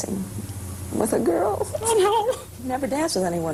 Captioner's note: whimpering